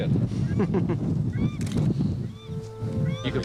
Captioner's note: shutter clicks